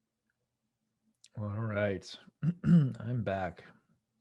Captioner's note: clearing throat